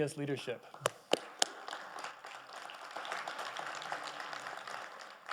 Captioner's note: audience applauding